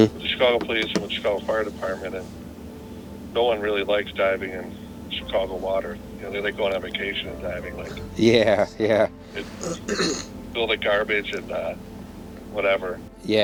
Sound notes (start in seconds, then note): 7.8 chuckling